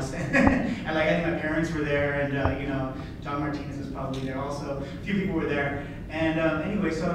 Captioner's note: laughs